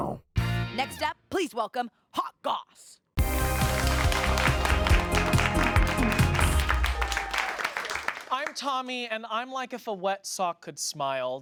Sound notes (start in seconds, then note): 3.2 upbeat music; 3.2 audience applauds